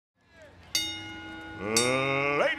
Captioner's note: fans cheering; bell ringing